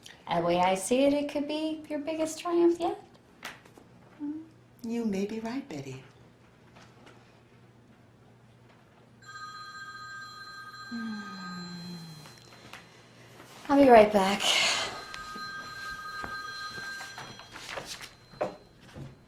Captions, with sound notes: The way I see it, it could be, your biggest triumph yet. - You may be right Betty. (phone ringing) - I'll be right back. (phone ringing)